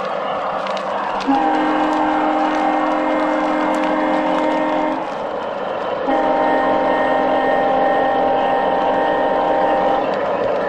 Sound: train horn

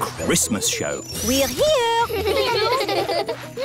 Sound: children giggling

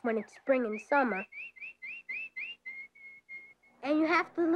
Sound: birds chirping

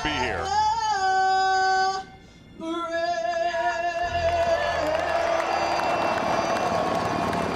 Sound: helicopters Whirring

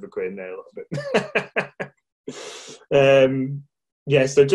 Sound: laughing

